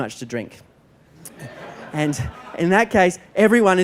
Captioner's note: laughter